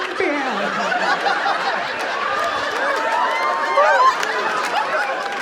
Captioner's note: audience laughing